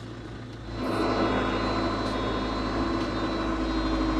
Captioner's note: machinery rumbles